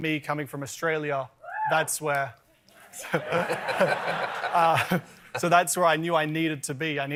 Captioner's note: cheering